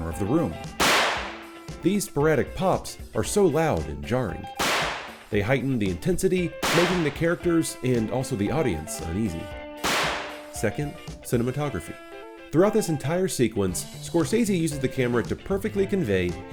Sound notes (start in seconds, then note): 0.8 bang!; 4.6 bang!; 9.8 bang!